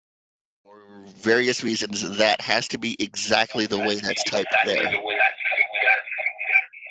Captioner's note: echo